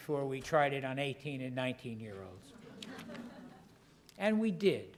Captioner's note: laugh